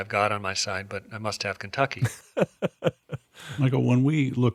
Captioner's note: laughing